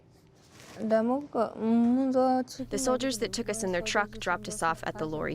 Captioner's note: through translator